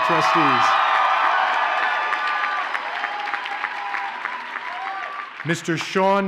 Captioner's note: audience cheers and applauds